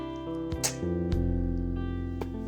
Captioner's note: kissing sound